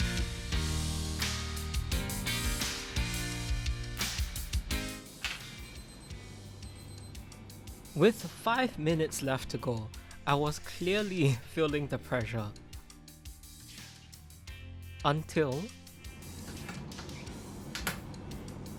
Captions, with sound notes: (alarm ringing) With five minutes left to go, I was clearly feeling the pressure. (ambient music) Until.